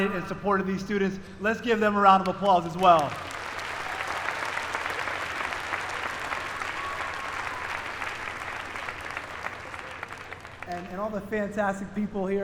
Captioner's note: applause